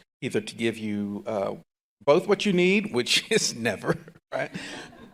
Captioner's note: laughs